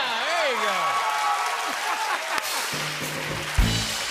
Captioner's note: cheers and applause